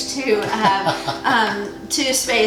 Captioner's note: laughs